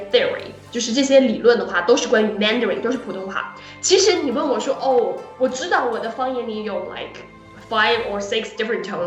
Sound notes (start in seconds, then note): 5.6 Mandarin